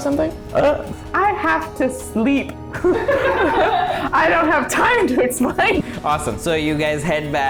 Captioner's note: everyone laughs